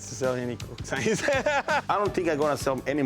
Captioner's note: laughs